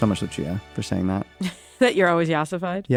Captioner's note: laughs